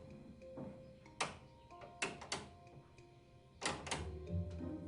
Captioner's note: switch clicking on and off